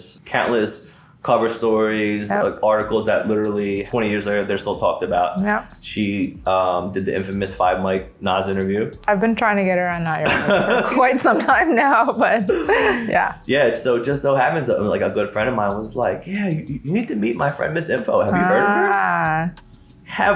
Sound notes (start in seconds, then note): 12.8 laughs